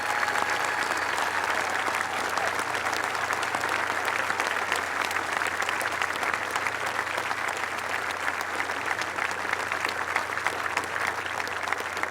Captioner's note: applause